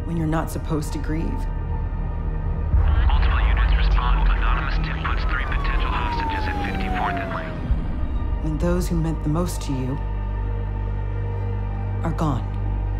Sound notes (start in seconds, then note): 3.2 police radio chatter